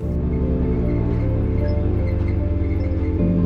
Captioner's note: engine roaring